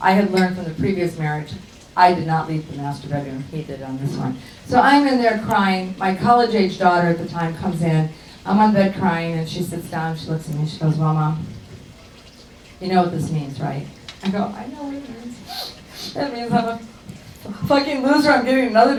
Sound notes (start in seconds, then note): 15.4 sniffs